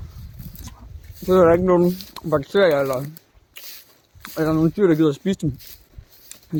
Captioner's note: Munch; munching